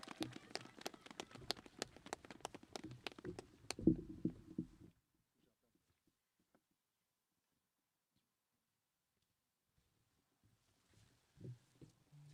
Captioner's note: applause